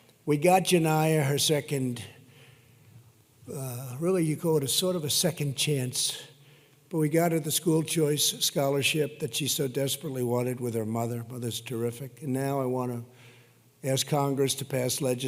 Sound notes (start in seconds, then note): none